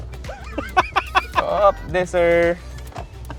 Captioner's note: continues laughing